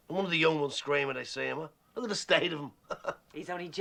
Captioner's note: Risas